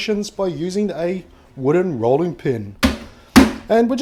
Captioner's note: smash smash